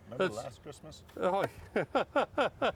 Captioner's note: laughs